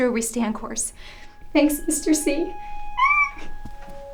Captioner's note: squeals